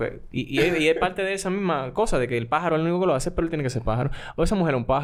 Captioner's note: laughs